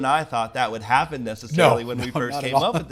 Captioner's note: chuckles